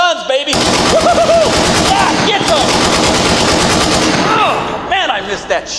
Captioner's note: machine gun rattling